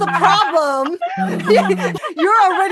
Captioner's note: laughter